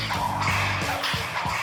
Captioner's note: whip lashes